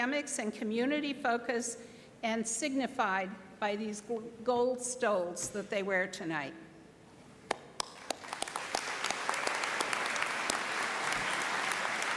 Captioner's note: applause